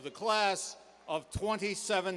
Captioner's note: cheers and applause